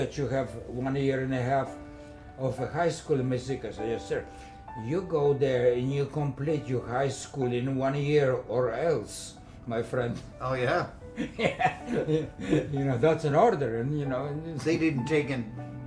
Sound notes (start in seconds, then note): 11.1 laughing